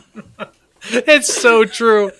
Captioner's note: both laughing